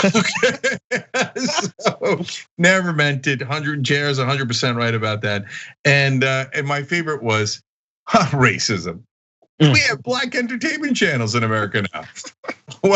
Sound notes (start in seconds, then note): 2.8 laugh